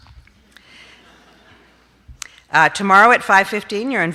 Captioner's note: audience laughs